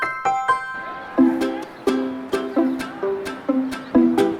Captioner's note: people talking